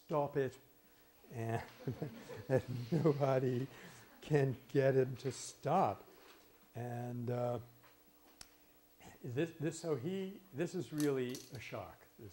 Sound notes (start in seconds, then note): 1.5 laughter